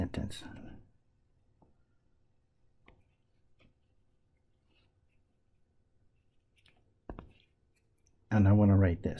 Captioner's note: tapping Sounds